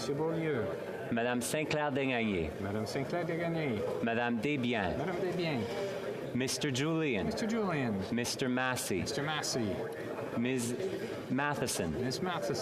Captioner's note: speaking French